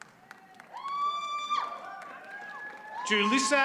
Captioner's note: attendee cheers